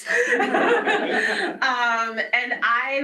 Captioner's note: laughter